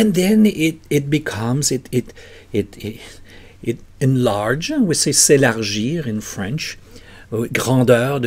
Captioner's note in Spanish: en francés